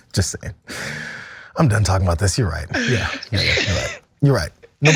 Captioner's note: laugh; laugh